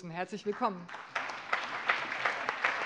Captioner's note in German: Allgemeiner Beifall